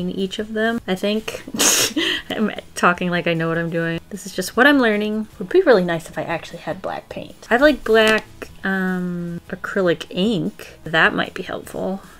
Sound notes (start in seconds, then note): 1.4 laughs